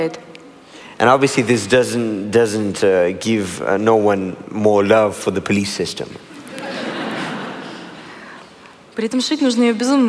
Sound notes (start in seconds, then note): 6.3 laughter; 9.6 foreign Language